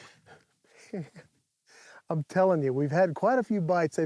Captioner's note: laughs